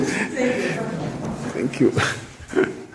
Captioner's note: laugh